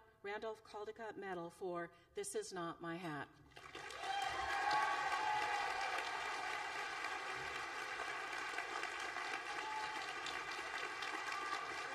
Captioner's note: applause